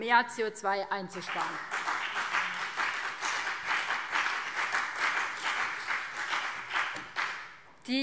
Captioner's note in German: Beifall BÜNDNIS 90/DIE GRÜNEN und vereinzelt CDU